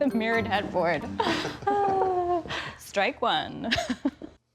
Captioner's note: chuckles